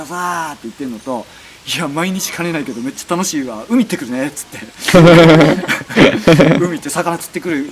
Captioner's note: laugh